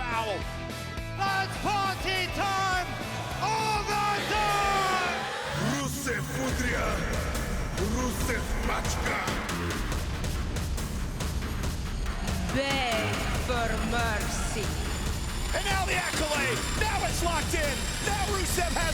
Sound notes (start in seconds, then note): 6.6 speaking russian